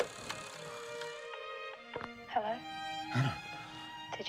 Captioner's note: phone rings